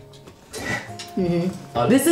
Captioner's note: scoff